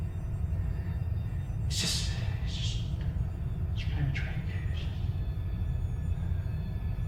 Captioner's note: whispers